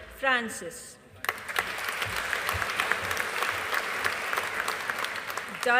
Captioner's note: audience applauding